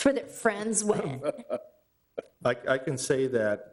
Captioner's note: laughing